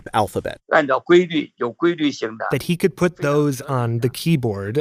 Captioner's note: speaking Mandarin